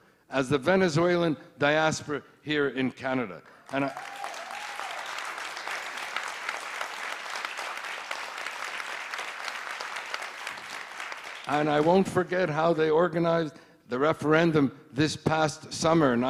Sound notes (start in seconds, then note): 3.3 applauding